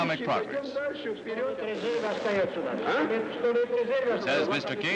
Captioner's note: Nikita Khrushchev speaking in Russian